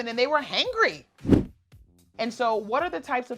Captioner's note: air whooshes